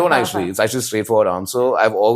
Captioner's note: laughs